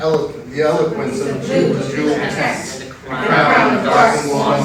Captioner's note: in Unison